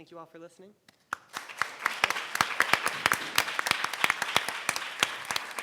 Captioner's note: audience applauding